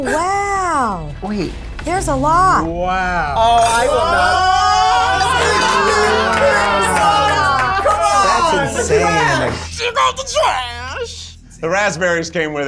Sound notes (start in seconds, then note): 0.0 laughs; 3.4 all cheer